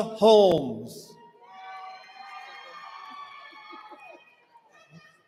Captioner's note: cheering